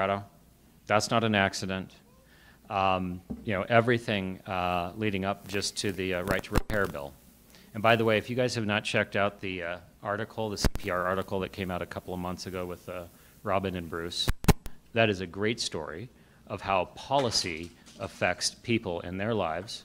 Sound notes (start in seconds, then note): none